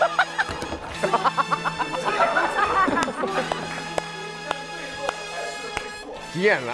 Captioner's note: hahaha